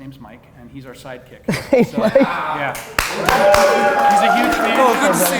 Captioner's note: laughs